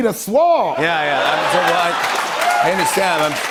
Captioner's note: laughter and applause